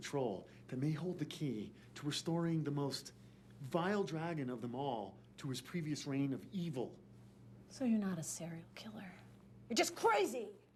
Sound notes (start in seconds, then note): none